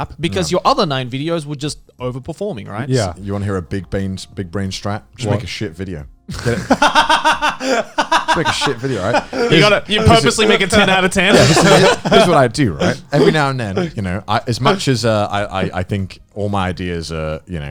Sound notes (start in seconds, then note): 6.3 Joey and Garnt laughing; 11.4 Garnt laughing